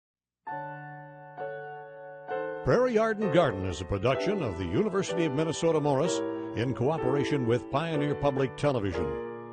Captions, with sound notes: (jazzy piano music) - [Voiceover] Prairie Yard & Garden is a production of the University of Minnesota Morris, in cooperation with Pioneer Public Television.